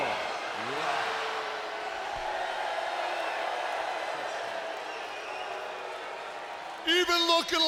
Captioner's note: applause